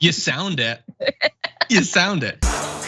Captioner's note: laugh